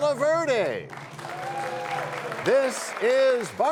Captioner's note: cheers and applause